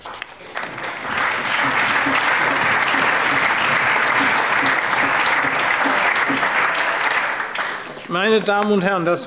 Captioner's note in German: Allgemeiner Beifall